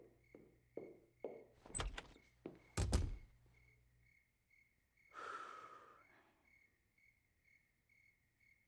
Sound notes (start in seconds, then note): 1.2 footsteps; 5.2 exhales